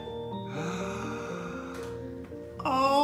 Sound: gasp

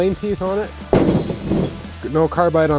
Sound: metals crank

